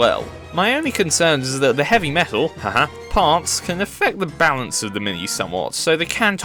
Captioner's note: haha